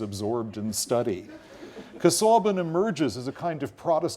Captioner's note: laugh